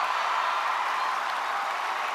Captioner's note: cheers and applause